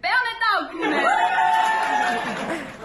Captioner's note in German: Jubel